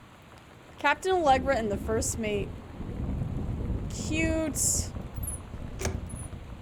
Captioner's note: thunder